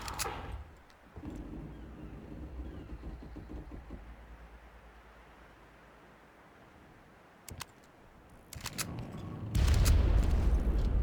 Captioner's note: gun firing